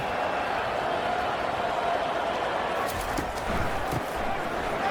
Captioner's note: crowd Noises